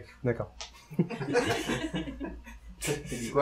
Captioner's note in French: Rires